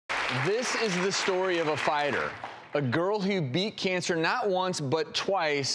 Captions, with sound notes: (audience clapping) This is the story of a fighter. A girl who beat cancer not one but twice